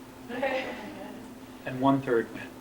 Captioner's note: laughter